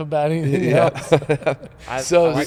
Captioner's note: laughing